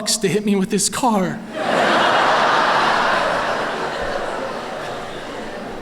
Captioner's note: laughter